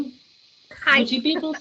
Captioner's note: laughing